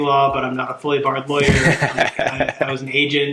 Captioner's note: laughing